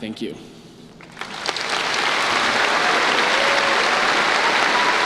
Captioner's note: applause